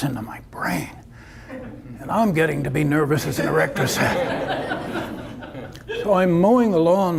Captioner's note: audience laughter